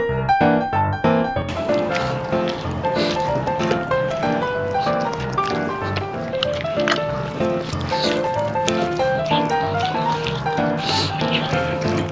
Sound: intense chewing sounds

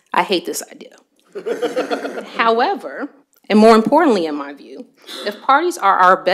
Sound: laughter

